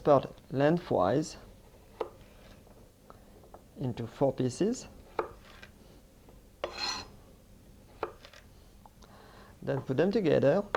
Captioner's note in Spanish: sonido cortando